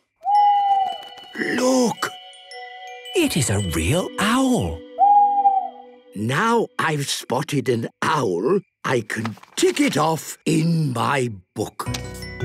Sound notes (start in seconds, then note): 0.0 owl hooting; 0.2 hooting; 4.3 hooting